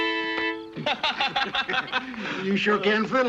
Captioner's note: laughter